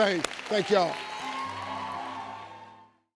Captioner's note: audience cheering